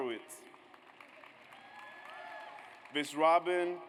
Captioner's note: audience applauds